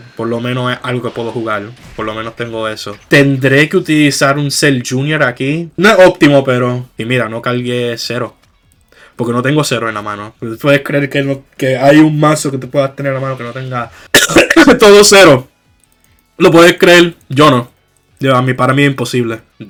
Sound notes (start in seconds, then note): 14.1 coughs in foreshadow